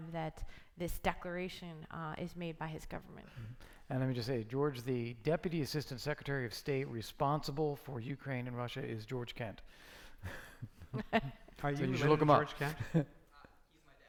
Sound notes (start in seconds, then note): 10.8 laughing